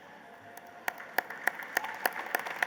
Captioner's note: applause